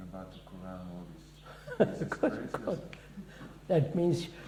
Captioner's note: laughs